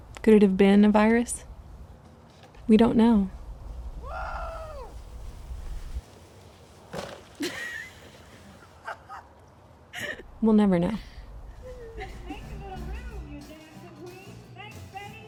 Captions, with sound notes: Could it have been a virus? We don't know. [Laughter] We'll never know.